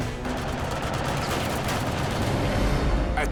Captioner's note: gunfire